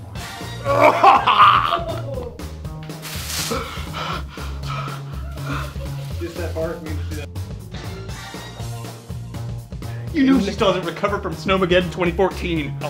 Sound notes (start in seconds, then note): 0.6 gagging